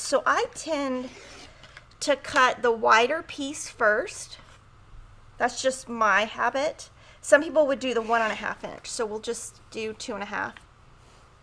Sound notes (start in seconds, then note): none